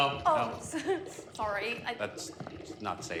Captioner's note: laughs nervously